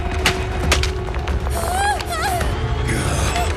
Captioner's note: terrified shrieks